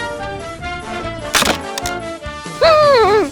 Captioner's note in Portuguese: Creck